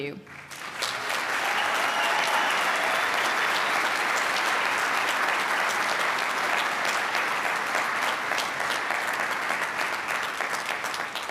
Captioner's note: applause